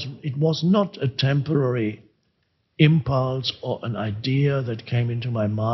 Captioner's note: none